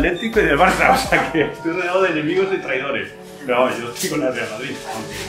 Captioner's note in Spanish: Voces en la tienda